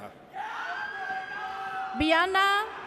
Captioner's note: audience cheers